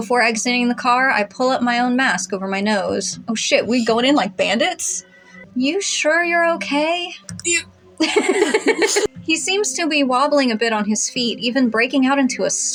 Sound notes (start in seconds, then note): 8.0 laugh